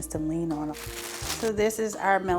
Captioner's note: plastic crinkling